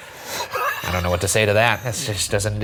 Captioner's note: laughing